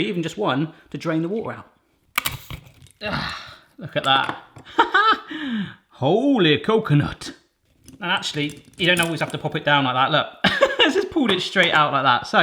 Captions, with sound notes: even just one to drain the water out. (coconut cracks) Ah, look at that, ha-ha! Holey coconut. And actually, you don't always have to pop it down like that, look, that's just pulled it straight out like that,